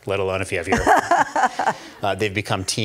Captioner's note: laughing